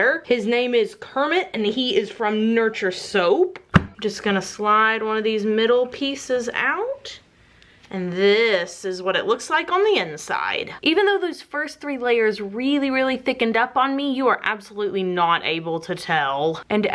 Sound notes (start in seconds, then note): 3.6 thump